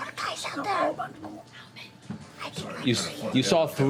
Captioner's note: whispering